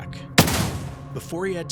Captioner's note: musket bangs